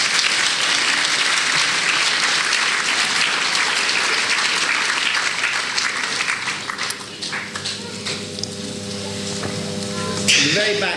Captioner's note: applause